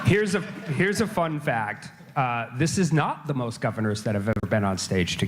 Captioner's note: laughter